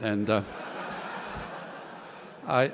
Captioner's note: laughter